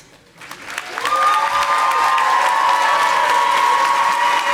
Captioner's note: audience applauding